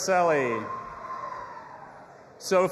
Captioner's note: audience applauding and cheering